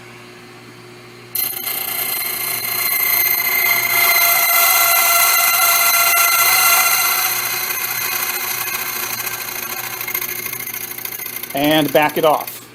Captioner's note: metallic grinding noise